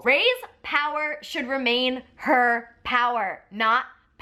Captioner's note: none